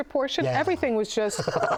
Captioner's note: laughs